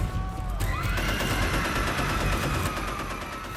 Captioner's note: screaming, machine gun fire